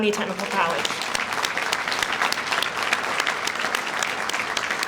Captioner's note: audience applauds